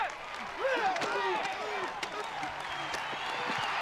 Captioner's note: grunting; crowd cheering